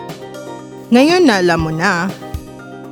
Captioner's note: speaking filipino